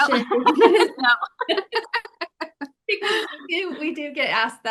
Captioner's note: everyone laughing